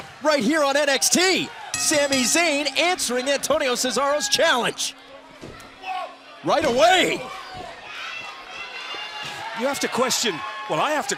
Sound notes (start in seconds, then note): 1.7 bell ringing